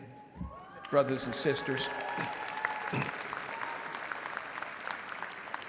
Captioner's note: audience cheering and applauding